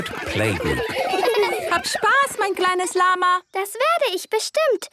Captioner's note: laughter; speaking German